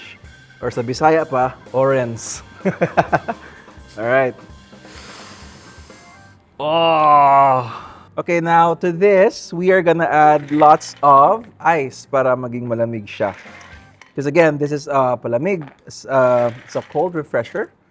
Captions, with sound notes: Or in Bisaya, "orens." (laughs) All right. (grunts) Okay. Now, to this, we are going to add lots of ice so that it'll be cold. 'Cause again, this is a palamig, it's a cold refresher